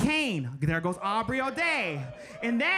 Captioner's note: audience members cheering